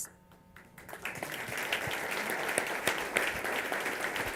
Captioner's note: applause